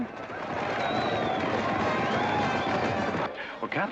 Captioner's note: horse hooves pounding and band playing